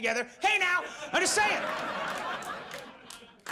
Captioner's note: audience laughs